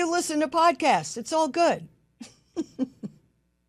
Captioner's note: laughs